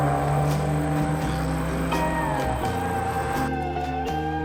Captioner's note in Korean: 마침 옆에 지나가는 차 소리입니다 ㅋㅋㅋ